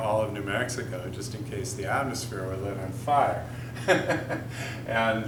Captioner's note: laughs heartily